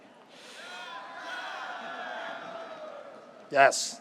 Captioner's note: audience cheers